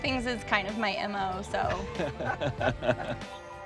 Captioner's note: both laughing